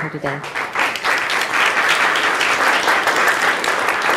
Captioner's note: audience applauding